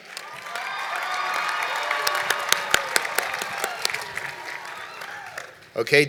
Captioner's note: cheering and Applause